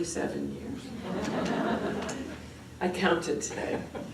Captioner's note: laughter